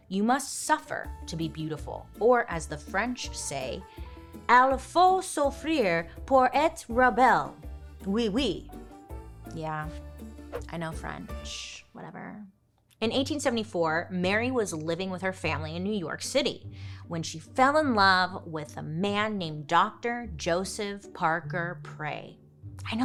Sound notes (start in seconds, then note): 4.7 speaking French